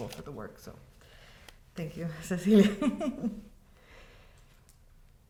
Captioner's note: laughs